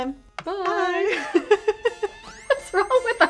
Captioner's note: laughing